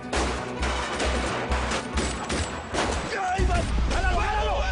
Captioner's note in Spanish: Disparos